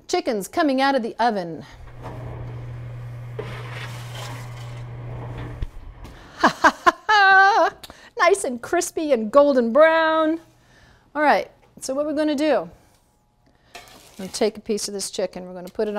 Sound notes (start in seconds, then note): 3.6 metal scraping; 6.2 laughing